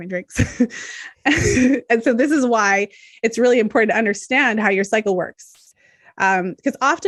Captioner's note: chuckles